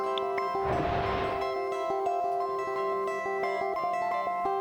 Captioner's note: water splashing